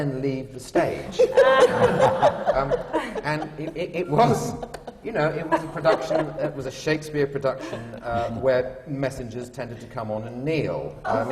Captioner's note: laughter